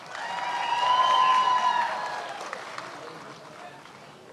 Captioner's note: many applauding